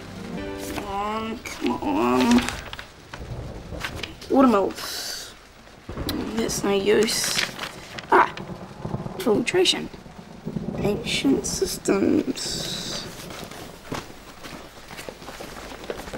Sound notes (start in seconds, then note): 1.4 pages flip; 5.8 tuts; 12.4 footsteps